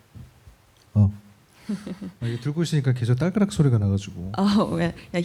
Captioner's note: speaking korean